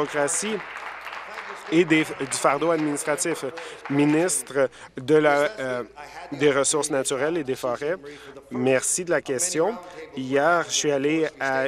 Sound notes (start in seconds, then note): 2.3 applause